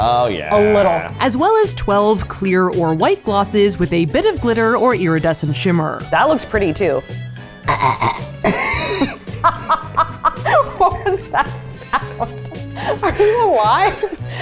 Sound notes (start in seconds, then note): 7.5 chokes; 8.4 laughs